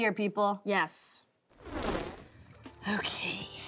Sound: crackling swoosh

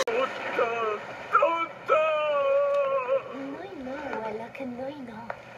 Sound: Italian

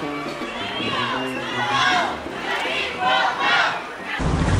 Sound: chanting from the parade

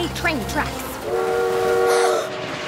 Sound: train horn blowing

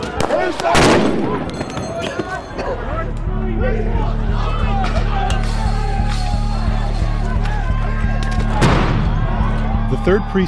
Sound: loud Boom, yelling, bangs

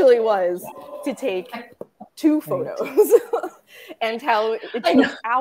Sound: chuckling

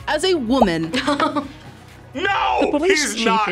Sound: laughs

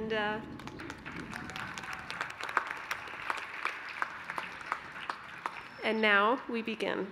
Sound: applause

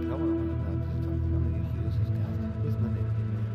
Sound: men speaking quietly

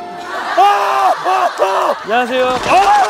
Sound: screaming

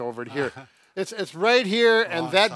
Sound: laughs

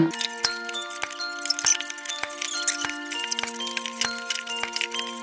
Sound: tape fast-forwarding

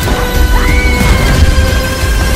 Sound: intense screaming

